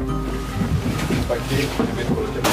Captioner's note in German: Stimmengewirr